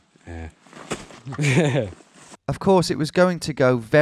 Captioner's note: chuckling